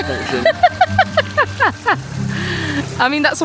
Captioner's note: laughing